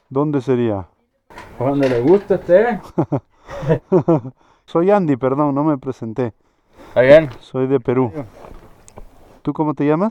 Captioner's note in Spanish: risas